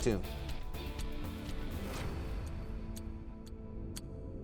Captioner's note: clock ticking